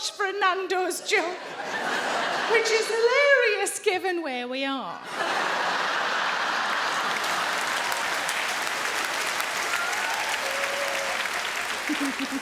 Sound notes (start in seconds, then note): 5.0 audience laughing; 5.2 audience applauding